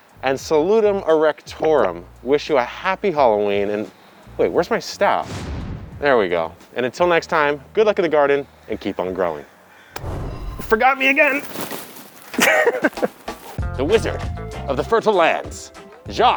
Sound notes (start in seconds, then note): 10.0 mystical background chiming; 10.4 distant brush rustling; 12.3 distant chuckling